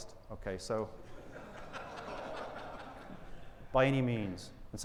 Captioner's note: audience laughing